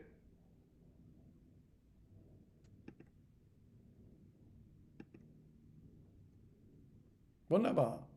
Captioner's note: silence